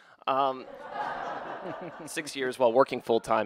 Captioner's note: audience laughter